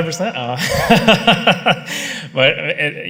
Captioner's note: laughter